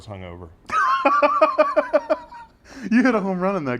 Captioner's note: laugh